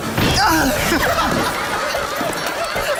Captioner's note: groaning